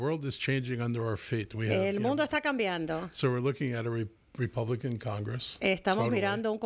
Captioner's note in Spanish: Hablando ingl\s